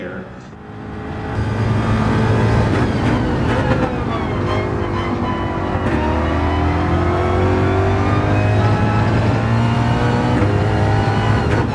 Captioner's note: engines revving, cars noises